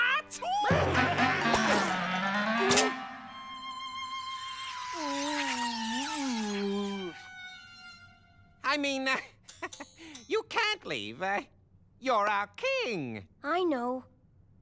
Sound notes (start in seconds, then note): 2.7 splat!; 8.5 chuckles